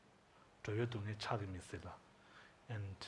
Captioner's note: speaking tibetan language